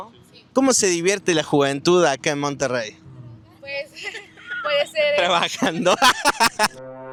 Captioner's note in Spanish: risas